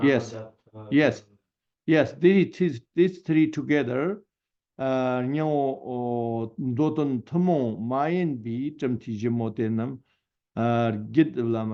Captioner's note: tibetan